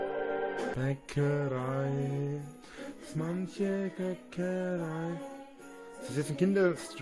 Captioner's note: hums a Kindergarten christmas song about a "Christmas bakery"